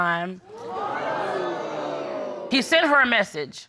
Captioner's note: crowd crining